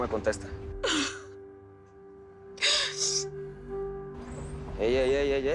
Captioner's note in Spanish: Sollozos